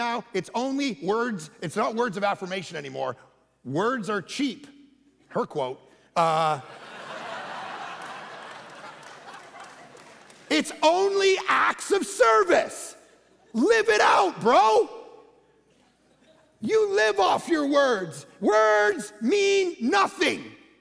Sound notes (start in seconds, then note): 6.2 congregation laughing